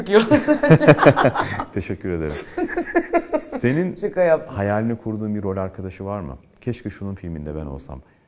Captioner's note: laughs